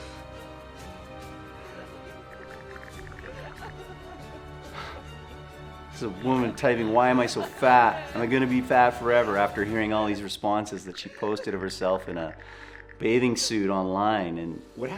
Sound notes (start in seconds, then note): 0.3 tense music; 3.5 woman crying